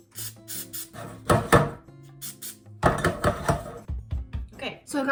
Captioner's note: pan clanking